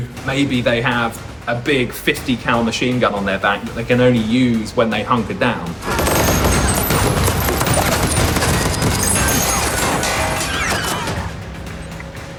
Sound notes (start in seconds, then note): 5.8 gunfire blasting; 6.0 intense music